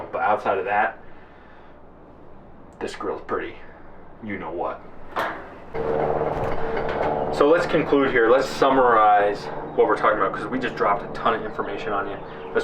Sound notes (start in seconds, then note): 5.6 plane roaring